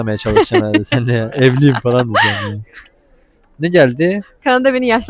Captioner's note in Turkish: kahkaha